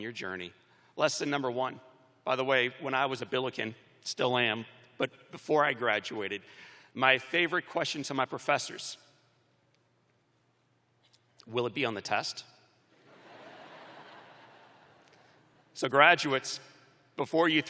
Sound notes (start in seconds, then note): 8.3 laughter